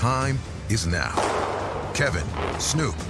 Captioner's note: starting pistol fires